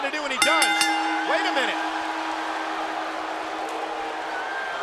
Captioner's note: bell chimes